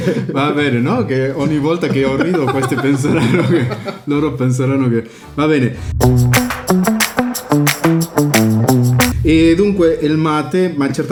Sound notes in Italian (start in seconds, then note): 0.0 risate; 5.0 risate